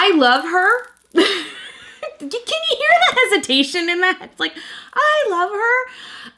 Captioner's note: laughs